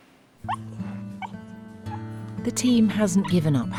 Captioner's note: Ollie whimpers